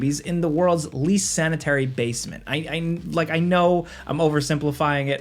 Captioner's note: none